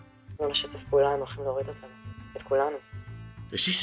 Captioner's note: speaking in Hebrew